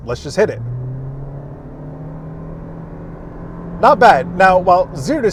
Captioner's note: engine revving